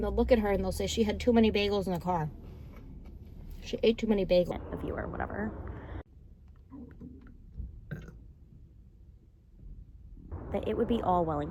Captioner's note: burps